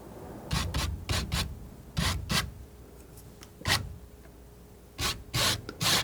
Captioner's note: scratching